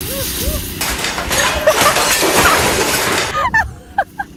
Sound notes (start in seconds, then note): 0.8 glass shattering, objects breaking; 3.4 hysterical laughter